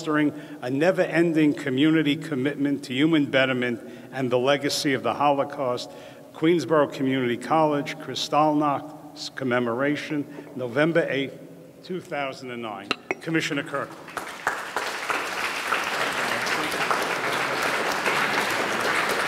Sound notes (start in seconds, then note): 13.9 audience clapping